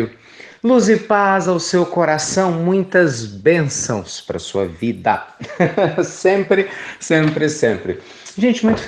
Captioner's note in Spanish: risas